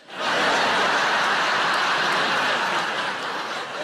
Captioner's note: audience laughs